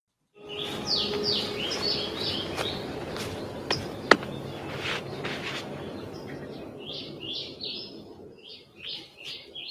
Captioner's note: birds singing